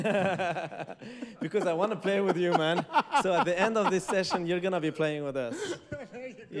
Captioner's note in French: rires